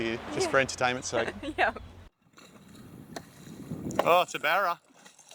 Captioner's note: laughs